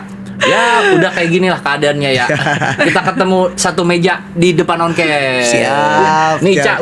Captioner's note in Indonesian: tertawa